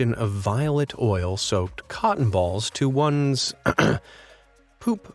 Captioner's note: ahem